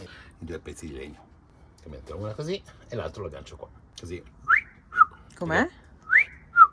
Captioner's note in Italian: fischio